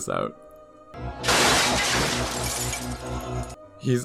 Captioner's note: glass breaking